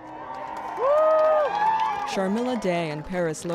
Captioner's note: applause